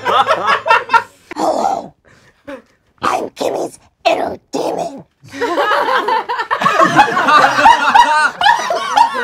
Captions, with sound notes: - Hello, I'm Kimmy's inner demon. (laughing)